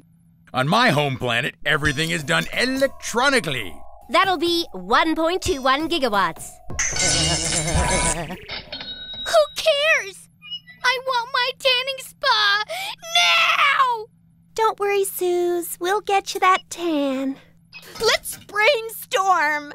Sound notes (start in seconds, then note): 6.8 zapping